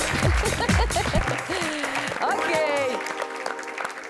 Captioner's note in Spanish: Risas